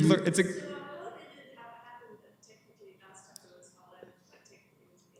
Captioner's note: comments off mic